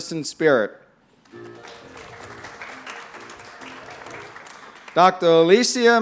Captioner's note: applause